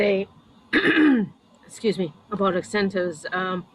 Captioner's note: clears throat